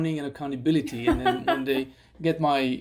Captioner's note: laughter